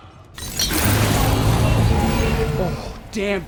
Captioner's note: gauntlet clinks; gauntlet whirs